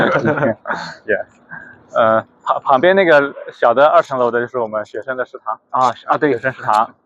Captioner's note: laughs